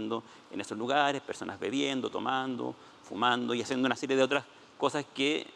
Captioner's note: speaking Spanish